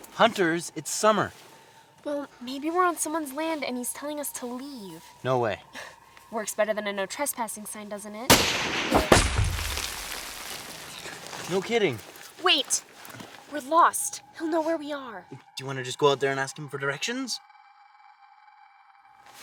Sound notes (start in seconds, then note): 8.3 gun firing